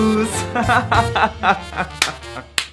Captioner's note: fake laugh